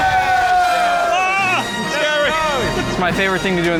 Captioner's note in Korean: 웃음